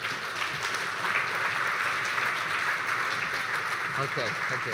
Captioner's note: audience applauding